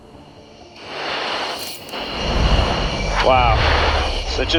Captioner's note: wind whooshing